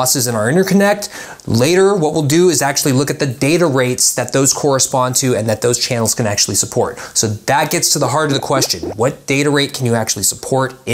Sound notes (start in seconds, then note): 8.1 graphics popping